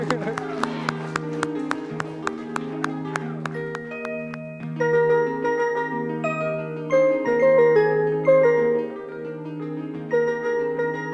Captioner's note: cheers and applause